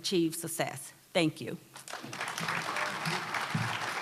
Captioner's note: applause